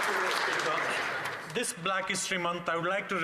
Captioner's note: some Applause